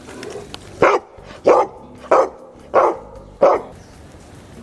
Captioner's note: dog barks